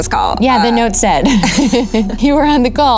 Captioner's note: laughs